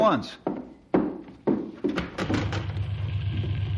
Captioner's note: banging